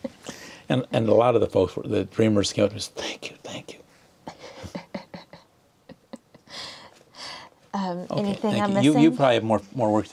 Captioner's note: laughter; laughter